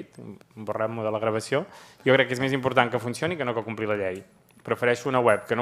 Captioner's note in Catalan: none